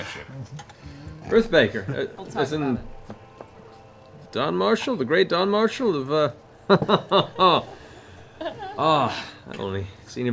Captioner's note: chuckles